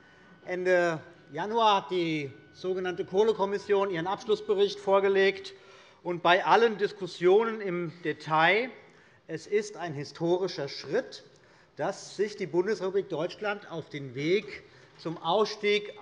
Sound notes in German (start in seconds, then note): none